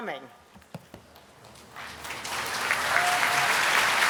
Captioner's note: applause